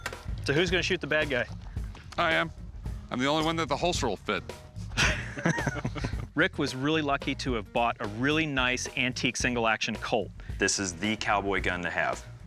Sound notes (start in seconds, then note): 4.9 laughter